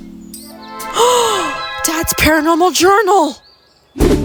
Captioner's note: gasp